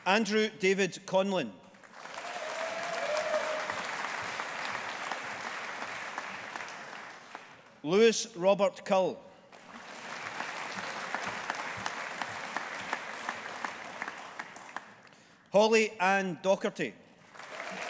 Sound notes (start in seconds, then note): 1.8 audience applauding; 9.5 audience applauding